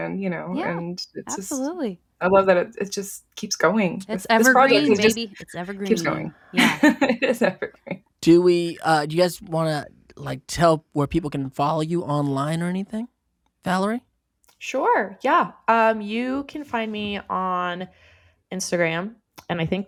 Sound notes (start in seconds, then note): 6.5 laughs